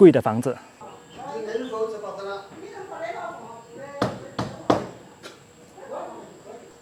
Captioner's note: bang bang bang